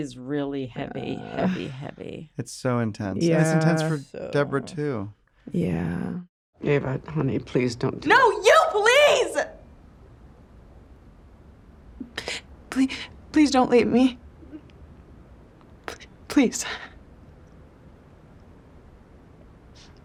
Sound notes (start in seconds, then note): 8.1 yells; 11.5 whimpers; 15.7 voice wavers